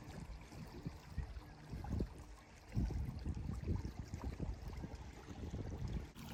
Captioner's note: relaxing water noises